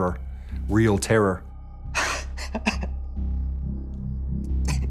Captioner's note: sobbing